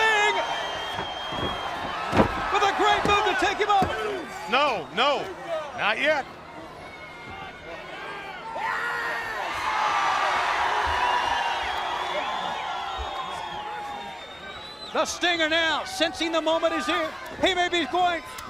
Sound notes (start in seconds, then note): 0.0 crowd chatter; 5.9 crowd chatter; 8.1 crowd cheering